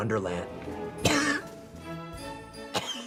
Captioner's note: coughs